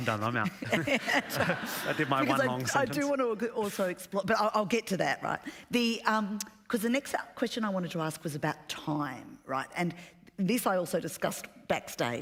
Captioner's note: laughter